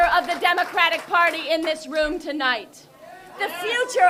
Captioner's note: crowd cheers